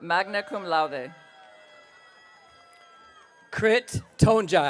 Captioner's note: audience cheering